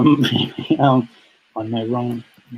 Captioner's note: laughs